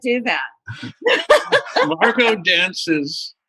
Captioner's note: laughter